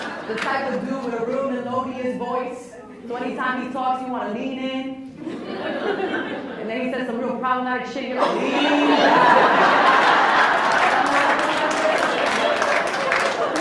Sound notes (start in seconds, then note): 0.0 laughs; 5.2 laughs; 8.2 laughs; 9.6 applauds; 12.0 laughs